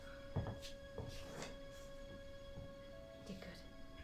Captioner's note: footsteps